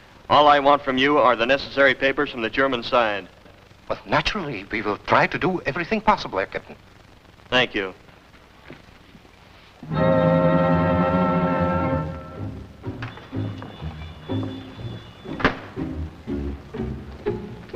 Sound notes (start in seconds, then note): 9.8 vintage music; 15.2 door shuts; 16.1 vintage music